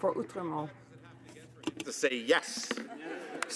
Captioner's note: some Applause